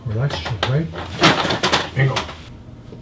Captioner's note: examination table creeks